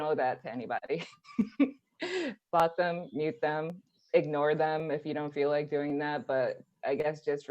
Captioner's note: laughs